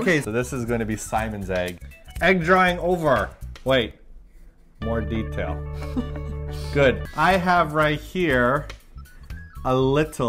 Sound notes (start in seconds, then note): 5.8 laughs